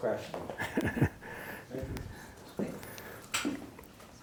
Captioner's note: laughs